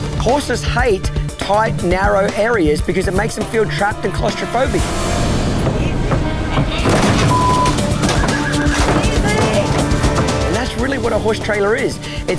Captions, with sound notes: - Horses hate tight, narrow areas because it makes them feel trapped and claustrophobic. - Easy. Easy. (horse whining) Easy! - And that's really what a horse trailer is.